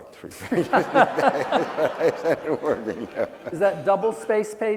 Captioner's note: laughing